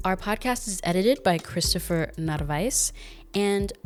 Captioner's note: none